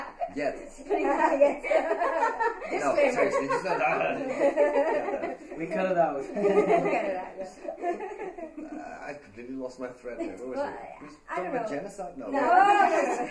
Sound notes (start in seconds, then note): 2.2 all laughing; 3.2 laughing; 5.8 laughing; 12.8 laughter